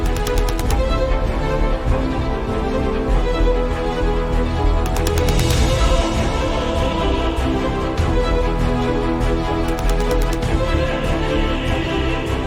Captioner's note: engines sounds from the two supply ships as they depart